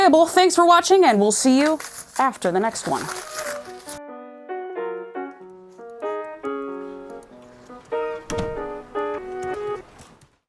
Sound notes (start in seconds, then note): 3.0 soft Piano; 6.0 door closes